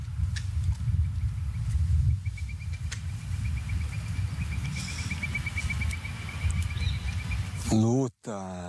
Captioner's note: birds chirping